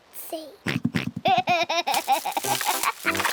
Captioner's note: oinks and giggles